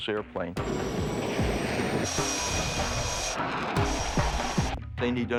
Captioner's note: jet engines roaring